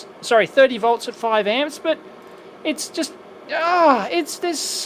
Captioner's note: frustrated sound